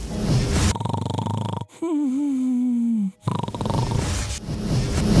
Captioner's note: snoring